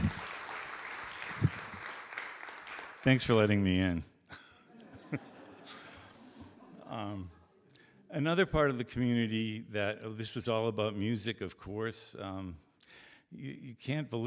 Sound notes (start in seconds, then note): 0.0 audience Applause; 4.6 audience Laughter